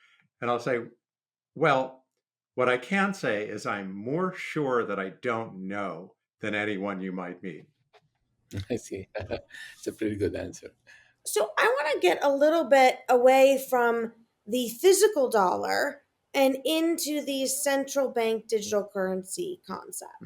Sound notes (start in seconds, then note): 8.6 laughs